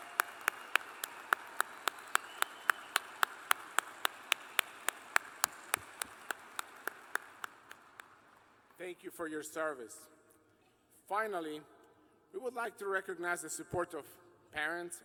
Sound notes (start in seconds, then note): 0.0 cheers and applause